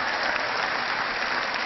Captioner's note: cheering